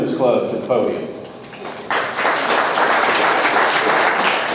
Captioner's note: audience applauds